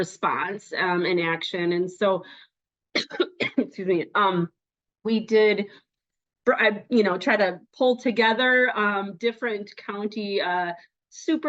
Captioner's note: coughing